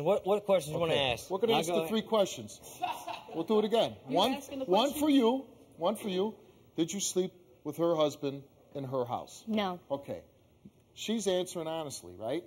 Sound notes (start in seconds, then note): 2.7 laughing